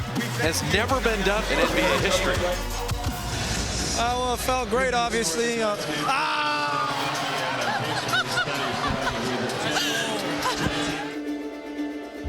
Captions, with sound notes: has never been done in NBA history. Well it felt great obviously. (yelling) (laughing)